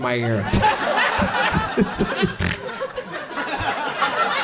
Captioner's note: audience laughs